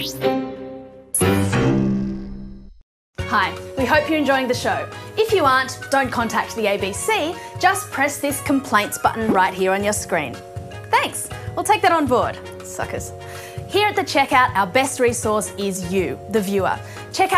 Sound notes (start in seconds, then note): 12.7 mutters